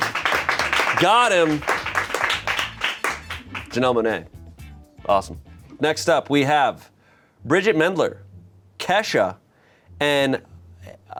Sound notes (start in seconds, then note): 0.0 crew applauds